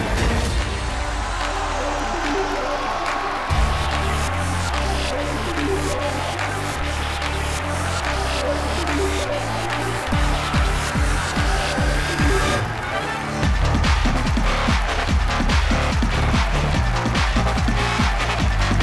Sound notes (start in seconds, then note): 1.2 applauding and cheering; 13.3 upbeat music plays